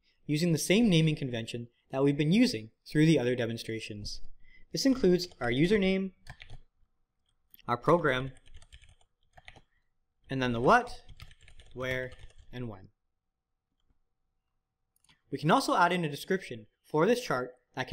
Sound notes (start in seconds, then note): 8.3 keyboard clicking